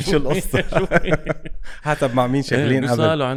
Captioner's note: laughs